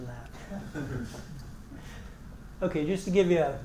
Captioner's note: laugh